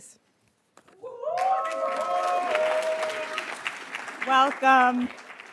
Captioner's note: attendees cheering and applauding